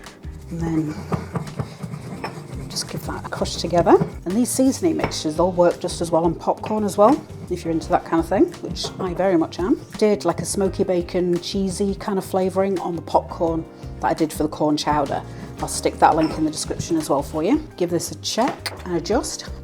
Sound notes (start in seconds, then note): 3.9 stone grinding